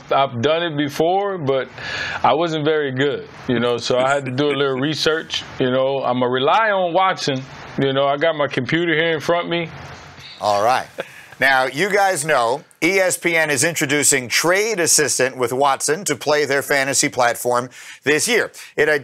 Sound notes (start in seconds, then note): 10.2 laughs